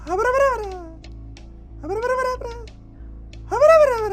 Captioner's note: gibbers